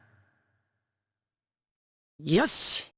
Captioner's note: silence